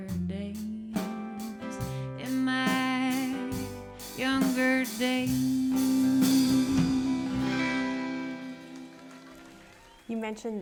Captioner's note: applause and cheering